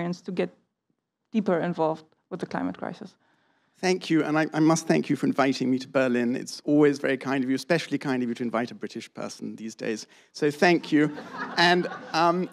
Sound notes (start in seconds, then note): 10.8 laughter